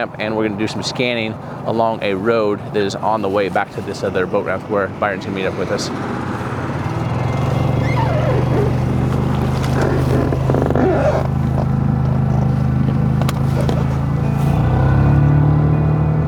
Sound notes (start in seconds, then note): 5.9 motor revving; 6.4 gentle music